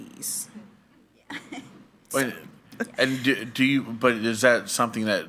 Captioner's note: chuckles